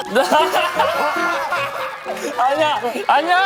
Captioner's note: roar of joy